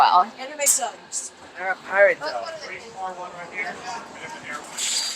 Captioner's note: noise of water